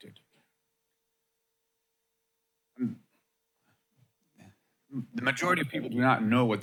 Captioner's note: pause